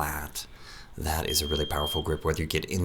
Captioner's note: beep